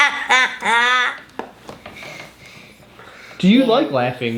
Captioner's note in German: lacht